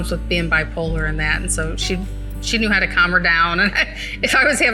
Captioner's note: laughs